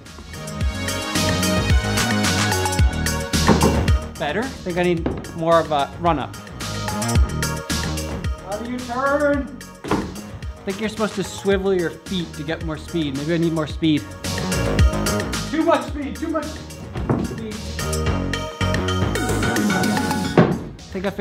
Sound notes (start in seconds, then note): 0.1 upbeat techno music; 4.8 thunk thunk; 9.8 clunk; 16.9 clunk; 20.3 thunk